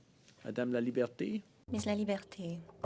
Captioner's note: speaking French